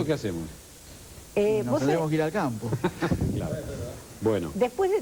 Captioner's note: laughs